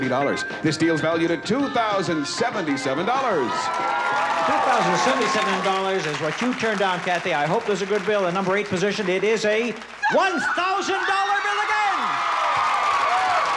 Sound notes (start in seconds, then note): 3.6 cheering and applause; 11.2 loud cheering and applause